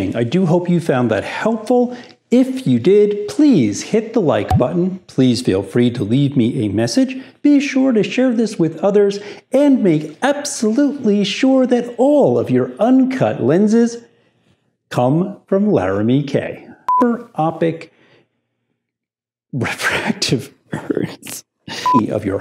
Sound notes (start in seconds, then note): 16.9 beep; 20.7 laughing; 21.8 beep